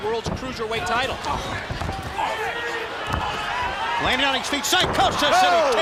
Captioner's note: crowd chatter